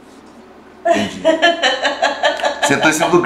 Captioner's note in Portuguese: risos